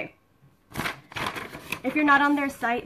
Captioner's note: paper rustling